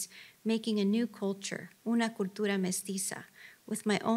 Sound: speaks Spanish

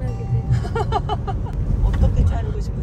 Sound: laughs

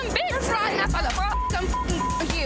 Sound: beep

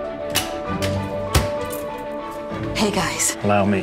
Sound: uplifting music; lock clicking; keys jangling

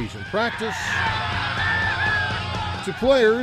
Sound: crowd cheering

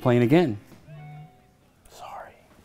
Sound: phone chimes

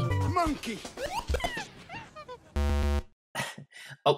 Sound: chirping; buzzer

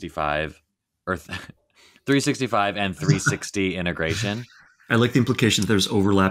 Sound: chuckling

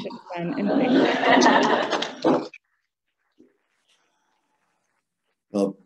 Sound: audience laughing; audience applauding

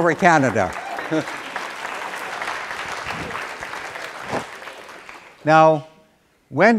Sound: applause

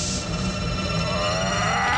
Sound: yells

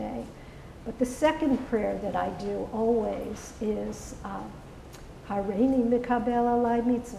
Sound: praying in hebrew

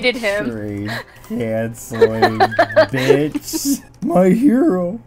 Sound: laughing

